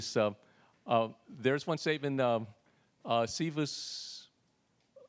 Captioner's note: speaks Latin